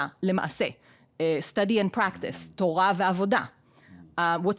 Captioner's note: speaking in foreign language